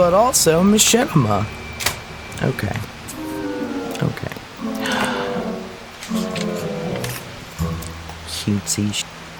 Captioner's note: mocking; pages flip